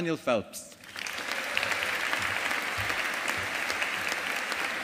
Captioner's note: audience applauding